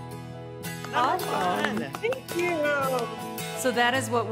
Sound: clapping

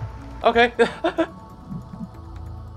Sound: laugh

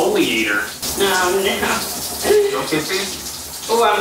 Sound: giggles

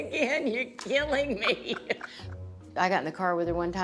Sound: laughs

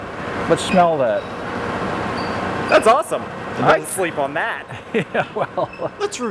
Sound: laughing

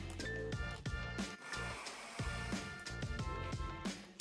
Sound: blender running

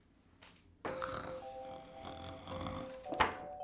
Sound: snoring

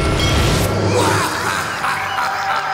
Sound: laughing; screaming

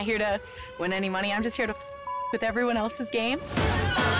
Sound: beep

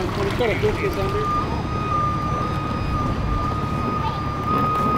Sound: tow truck beeps

